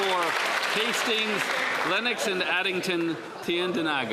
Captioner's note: some Applause